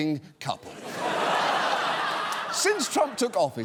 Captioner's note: audience laughs